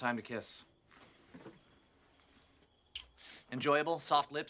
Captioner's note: smooch